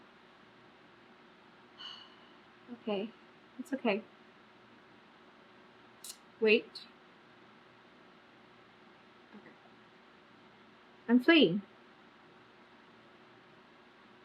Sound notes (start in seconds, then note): 1.5 exhales loudly